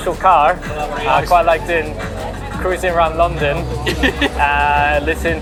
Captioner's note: laughs